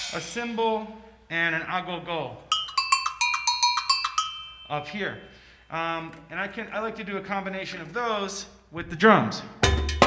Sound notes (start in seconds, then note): 2.5 bells ringing; 9.6 drum music